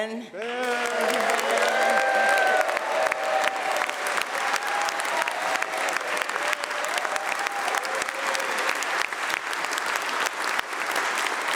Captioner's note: applause